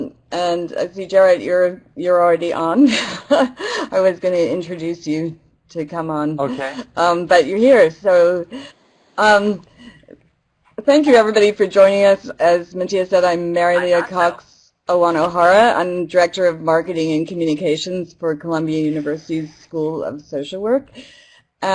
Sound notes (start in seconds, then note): 3.0 laugh